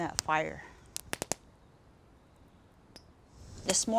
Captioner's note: flames crackling